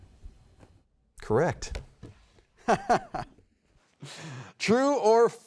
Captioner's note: chuckles